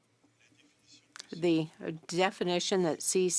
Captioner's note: speaking French